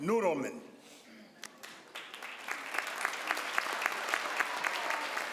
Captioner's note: crowd applauds